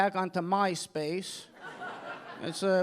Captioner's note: audience laughing